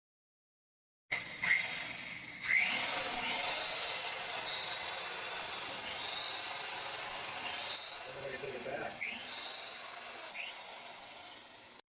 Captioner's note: drilling noise